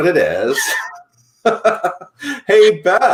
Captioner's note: laughs